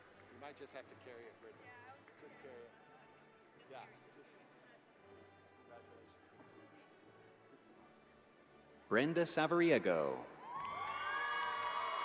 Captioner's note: cheers and applause